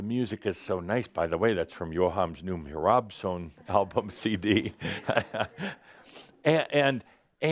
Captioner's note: Adamus chuckles